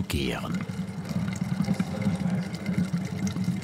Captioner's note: bubbling, quiet conversation